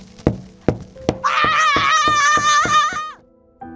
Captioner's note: yells maniacally